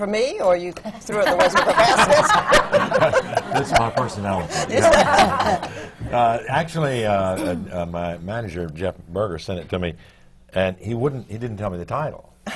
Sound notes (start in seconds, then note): 6.0 laughter; 12.3 laughter